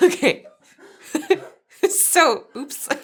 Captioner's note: chuckles